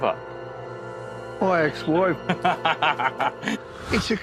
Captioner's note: Jack laughs